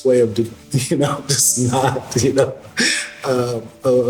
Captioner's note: laughing